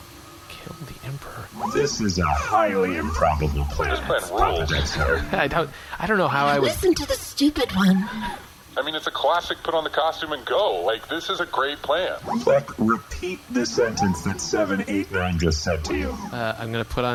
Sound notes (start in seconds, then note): 7.0 excited